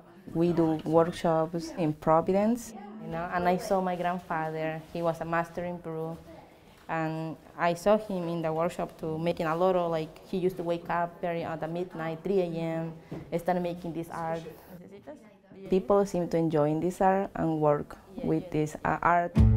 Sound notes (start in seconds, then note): 14.7 speaking Spanish